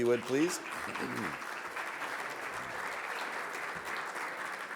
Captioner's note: audience applauds